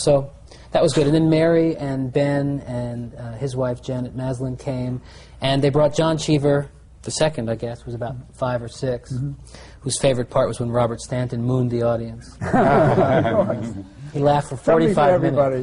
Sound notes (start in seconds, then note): 7.6 laughter